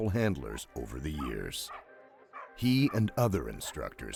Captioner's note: voiceover